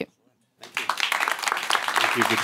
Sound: applause

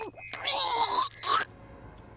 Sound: choking

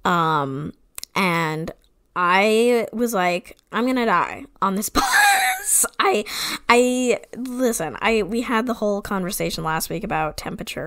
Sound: wheeze laughs

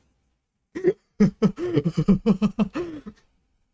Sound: self defense laughter

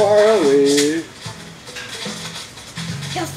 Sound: net whacks

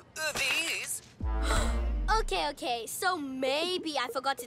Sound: gasps

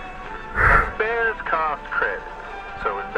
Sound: sigh of relief

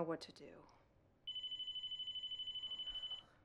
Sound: phone ringing

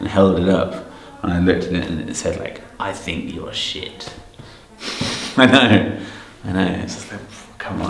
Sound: laughs

